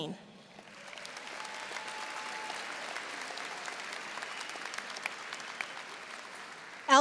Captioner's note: audience applauding; audience cheering